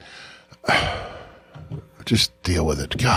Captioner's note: sighs